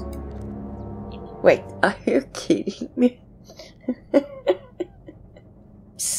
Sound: laughs

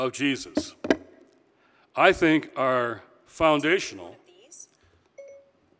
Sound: cell phone chiming

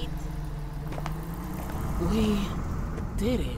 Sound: bus seats creaking

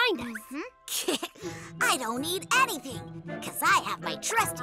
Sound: snickers

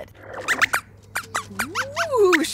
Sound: squeaks squeaks

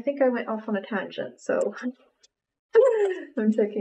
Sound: laughs

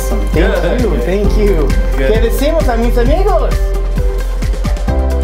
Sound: speaking in Spanish; upbeat music

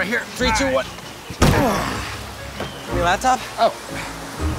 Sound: grunting

